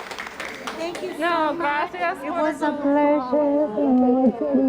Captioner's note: applause